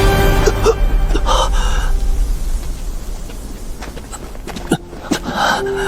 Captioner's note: gasping